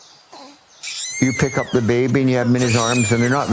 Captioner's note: baby screaming